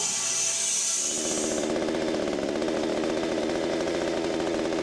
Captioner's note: chainsaw buzzing